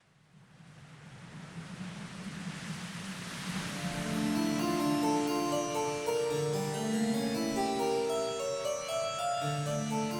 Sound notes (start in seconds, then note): 0.6 wind blowing; 3.7 eerie music